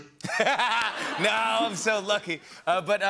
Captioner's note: laughter